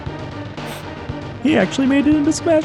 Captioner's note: sniff